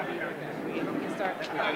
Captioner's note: indistinguishable chatter